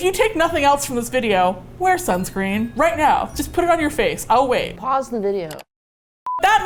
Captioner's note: mouse clicks